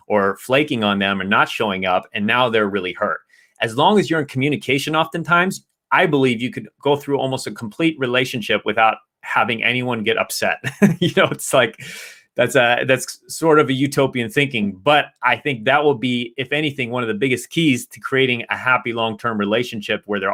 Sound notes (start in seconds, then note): 10.6 chuckles